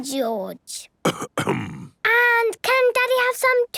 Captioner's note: coughs